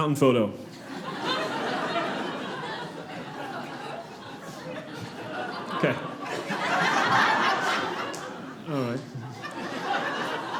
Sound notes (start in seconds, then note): 0.8 audience laughing; 9.4 audience laughing